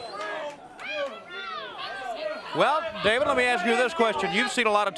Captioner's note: crowd chatter